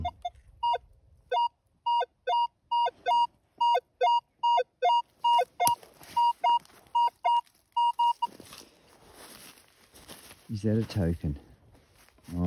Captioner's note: beep-beep